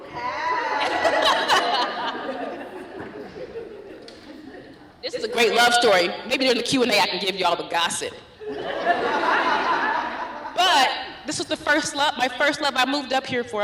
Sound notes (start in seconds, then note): 0.1 laughs; 8.4 laughter